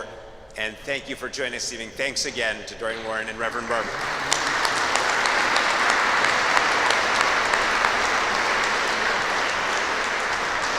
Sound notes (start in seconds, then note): 3.4 applause